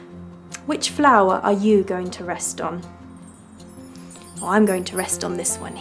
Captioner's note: upbeat music continues; wind chimes